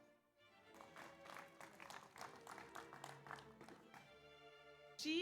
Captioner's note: audience applauds